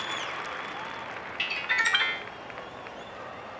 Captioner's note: plinks